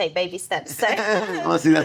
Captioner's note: laughing